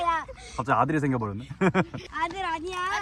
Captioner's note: laughing